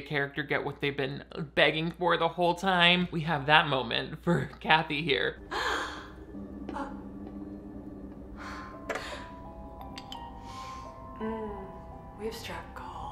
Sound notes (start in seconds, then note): 5.4 Kathy gasps; 8.2 Kathy breathes sharply; 10.3 Kathy sniffing; 11.2 Kathy moans